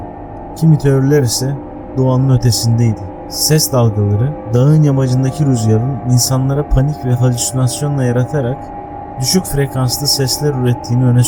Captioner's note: infrasound